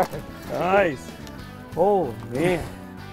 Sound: voiceover

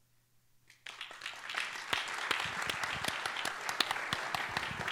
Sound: applause

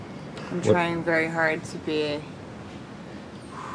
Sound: exhaling

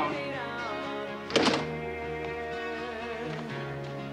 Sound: door clunking

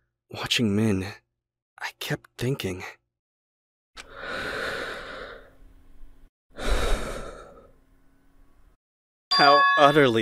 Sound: very deep breath

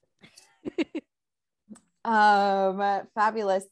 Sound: laughs

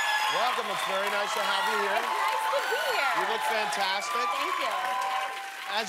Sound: cheers and applause

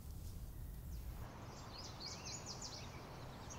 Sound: birds chirping

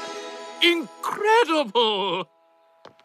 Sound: none

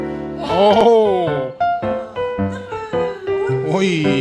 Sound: laughing

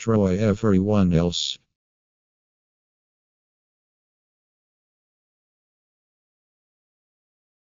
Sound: silence

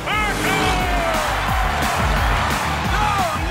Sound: cheering

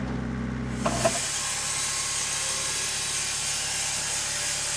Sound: saw revving

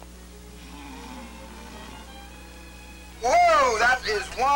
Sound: guest snoring

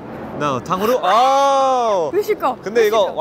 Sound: speaking in Korean

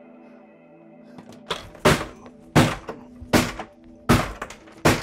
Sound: metal bashes against plastic over and over

